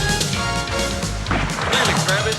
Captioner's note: guns firing